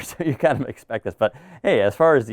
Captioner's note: laughing